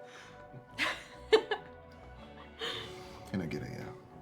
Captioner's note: Margaret laughs; Sarah laughs